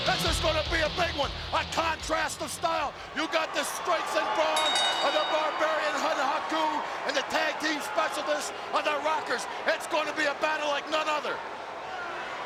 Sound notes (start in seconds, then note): 4.5 bell ringing